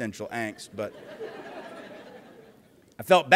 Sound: laughter

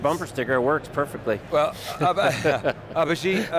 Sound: laughs

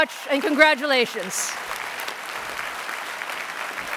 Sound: applause

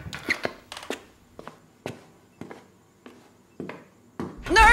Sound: chair creaking; footsteps departing

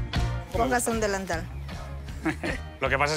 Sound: laughs

